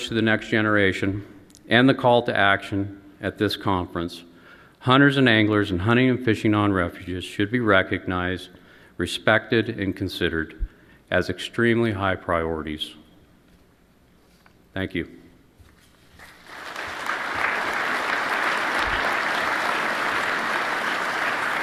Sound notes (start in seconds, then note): 16.2 applause